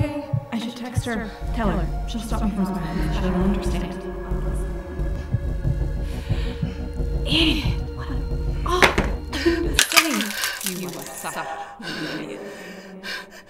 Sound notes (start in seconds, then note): 4.2 heart Beat; 9.8 pills clatter in the sink